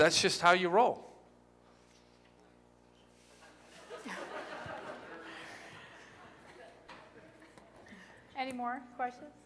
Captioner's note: laughter